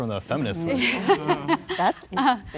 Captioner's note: people laughing